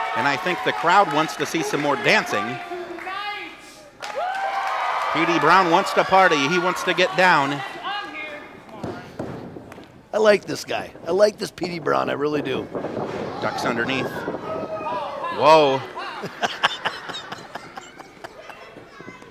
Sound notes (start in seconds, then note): 3.9 crowd cheers; 8.7 thudding; 13.0 crowd shouts; 15.8 shouting; 16.2 laughs